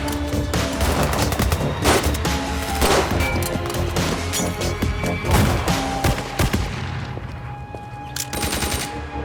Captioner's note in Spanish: Disparos